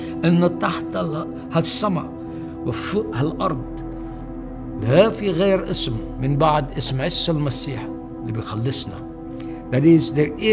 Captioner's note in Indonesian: bahasa Arab